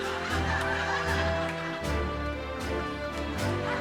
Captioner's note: crowd laughs